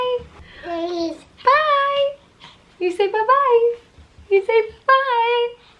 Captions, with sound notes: (baby cooing) Bye. You say bbye, you say bbye.